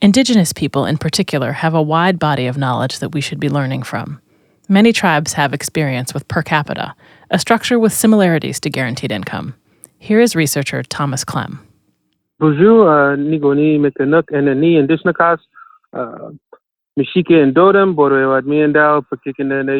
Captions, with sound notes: Indigenous people, in particular, have a wide body of knowledge that we should be learning from. Many tribes have experience with per capita, a structure with similarities to guaranteed income. Here is researcher Thomas Klem. (speaking in a foreign language)